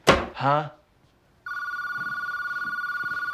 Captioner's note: telephone rings